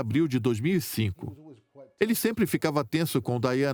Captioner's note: voiceover